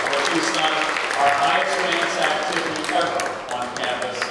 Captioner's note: applause